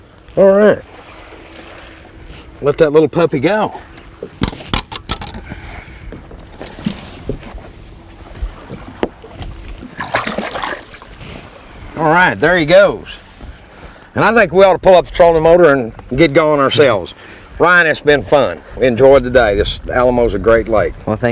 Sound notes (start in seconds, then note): 9.7 splash